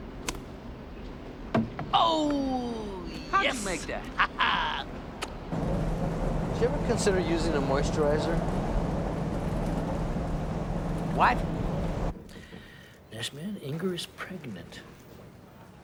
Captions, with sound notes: The pieces are getting bigger. (rumbling stops) Joe? Yeah? Think you can come out now. Is it cool? He's going to sue us. I mean, we're going to be paying rent to him to live in our own houses, man.